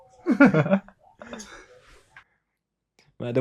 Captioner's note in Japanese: 笑い